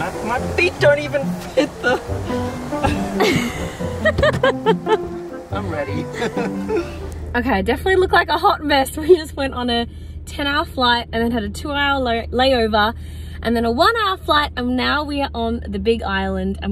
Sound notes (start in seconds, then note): 2.6 laughs; 6.5 chuckles